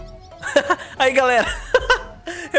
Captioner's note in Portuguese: risos